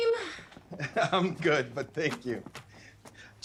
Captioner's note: Joe chuckles